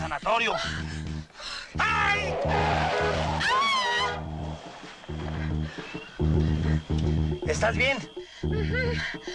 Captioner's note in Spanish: Quejidos; Chirridos de neumáticos